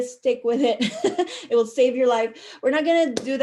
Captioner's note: chuckle